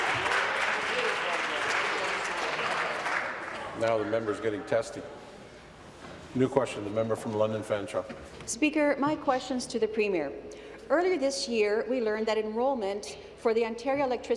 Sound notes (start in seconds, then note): 3.4 applause